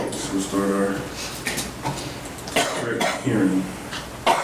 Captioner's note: woman coughing